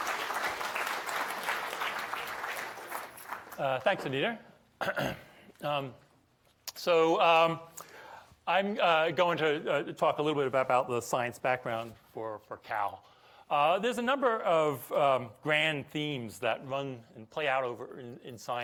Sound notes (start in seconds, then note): 4.8 clears throat